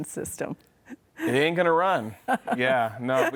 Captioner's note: laughs